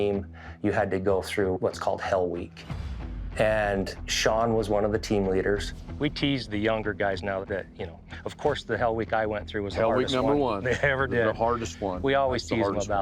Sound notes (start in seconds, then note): 10.0 laughs